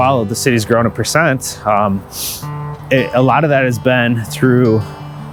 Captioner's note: inhaling